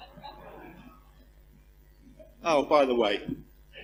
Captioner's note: laugh